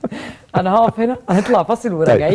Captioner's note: laughs!